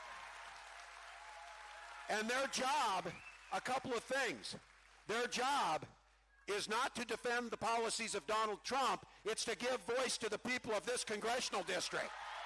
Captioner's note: cheering